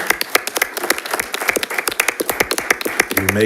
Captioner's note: audience applauds